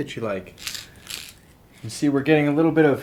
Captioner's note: rattling